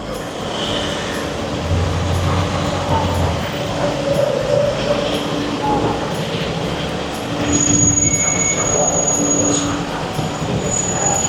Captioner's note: street noise